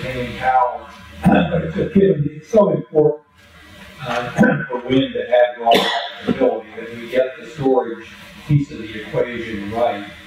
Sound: cough

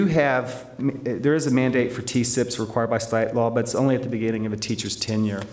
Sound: none

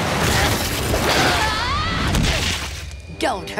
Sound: screaming

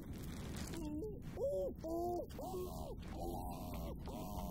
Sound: muffled screams

